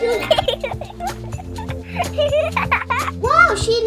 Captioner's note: children giggling